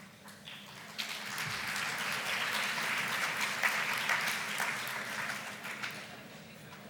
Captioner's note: applause